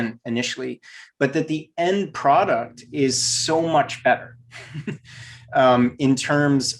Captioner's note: giggles